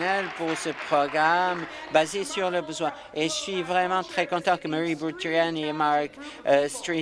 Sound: applause

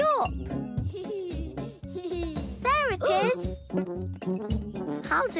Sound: giggling

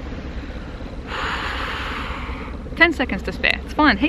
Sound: sharp intake of breath

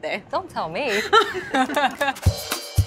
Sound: both laughing; upbeat percussion music

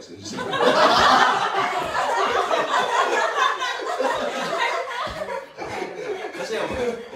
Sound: everyone laughs

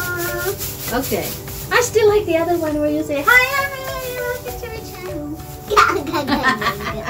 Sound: laughing sound

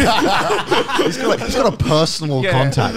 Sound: laughing

